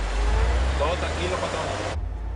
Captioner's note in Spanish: Sonido del camión